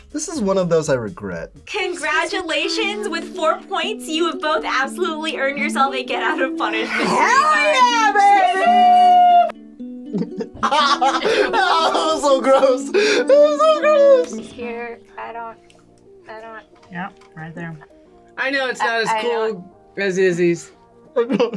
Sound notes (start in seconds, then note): 10.1 laughs